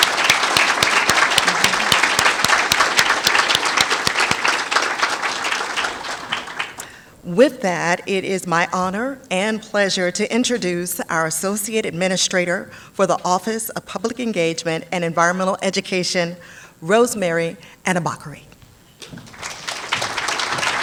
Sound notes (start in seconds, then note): 0.0 applause; 19.1 applause